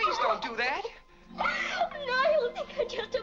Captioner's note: weeping